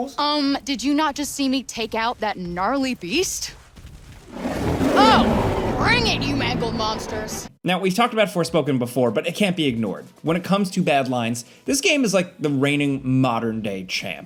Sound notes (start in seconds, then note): 4.3 creatures roaring